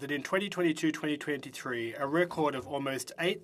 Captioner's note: speaking French